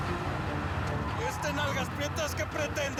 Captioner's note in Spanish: ruido del vehículo